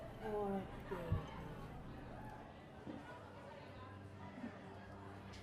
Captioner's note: people chattering